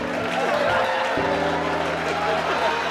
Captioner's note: cheers and applause